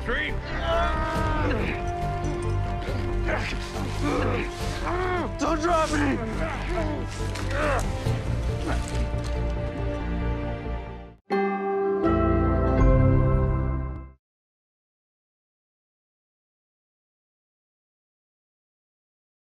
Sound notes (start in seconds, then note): 2.4 both groaning